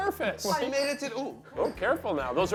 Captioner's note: chain rattles